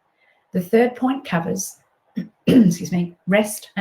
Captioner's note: clears throat